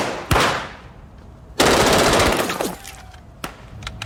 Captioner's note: guns firing